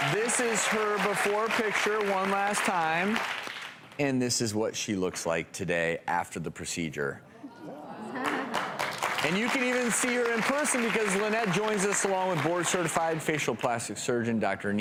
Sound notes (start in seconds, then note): 0.0 audience clapping; 7.5 audience gasps; 8.1 audience clapping